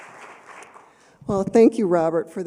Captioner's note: applause